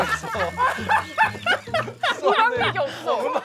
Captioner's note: laughing for real